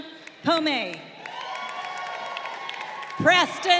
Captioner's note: crowd cheering